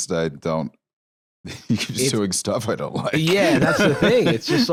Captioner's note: laughs